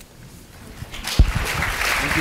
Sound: applause

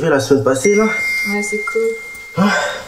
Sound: phone Ding

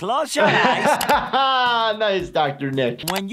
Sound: laughing

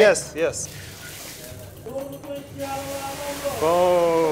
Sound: sizzling

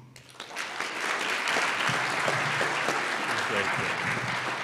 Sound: audience applauds

